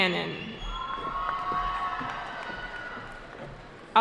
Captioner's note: cheering